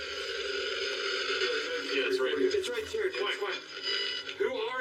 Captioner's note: overlapping chattering